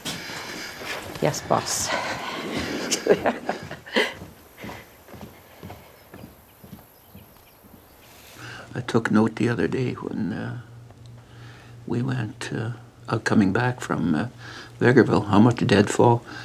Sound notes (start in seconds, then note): 1.6 chuckles